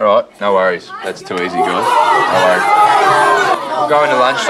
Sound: class shouts and protests

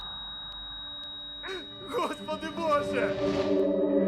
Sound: heart monitor flatline; man 3 sobbing; foreboding music playing

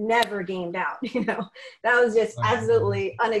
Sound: laughing

